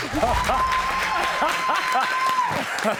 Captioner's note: laughing joyfully; audience applauding